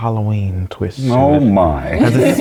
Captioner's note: laugh